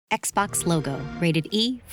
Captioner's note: xbox sound